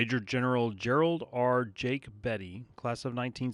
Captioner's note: voiceover